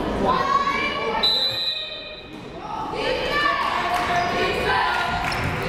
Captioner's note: whistle blaring